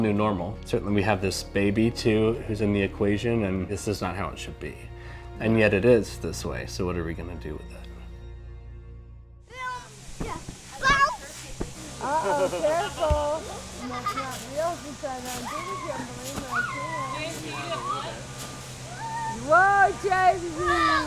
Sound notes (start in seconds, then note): 12.1 laughing; 14.0 kids laughing; 14.0 woman speaking in background